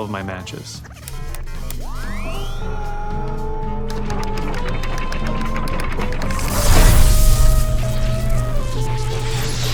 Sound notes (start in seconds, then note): 1.1 machines beeping, whirring; 4.2 electricity crackling